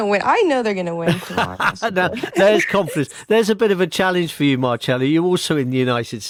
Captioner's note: laughs